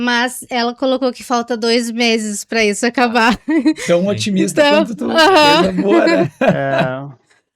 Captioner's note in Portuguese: risadas